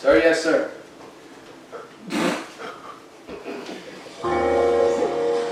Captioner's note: footsteps, audience laughing